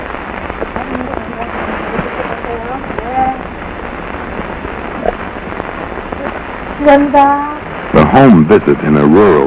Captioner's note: local language spoken